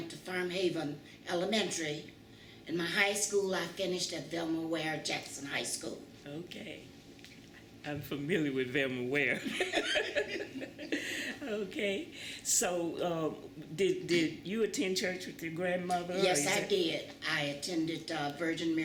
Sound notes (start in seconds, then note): 9.3 laughter